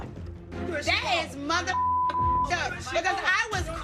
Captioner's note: beep